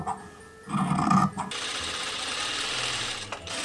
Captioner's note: sewing machine sounds